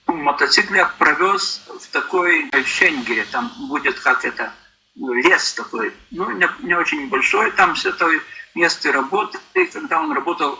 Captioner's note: Lithuanian